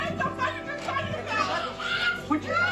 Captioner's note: screaming